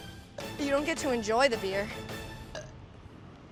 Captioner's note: burp